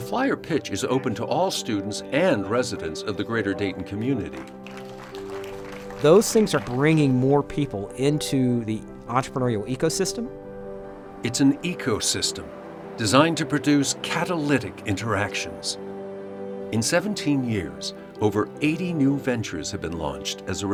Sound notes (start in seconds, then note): 4.1 all applauding